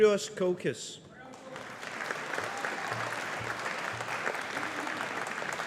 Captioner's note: audience applauding